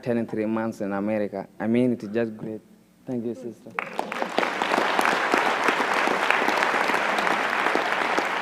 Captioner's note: applause